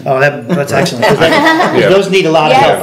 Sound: laughing

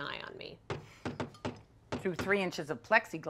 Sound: loud knocking

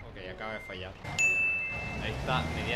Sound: ding

